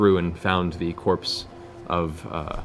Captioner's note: none